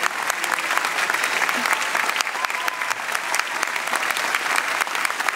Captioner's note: applause